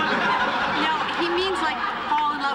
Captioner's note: laughter